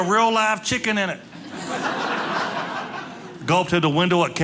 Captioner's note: audience laughing